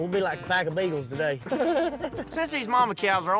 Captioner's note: laughs